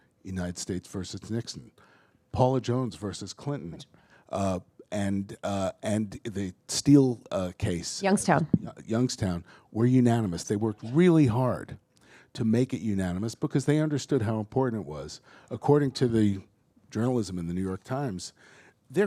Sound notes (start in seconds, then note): none